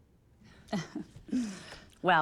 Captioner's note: chuckles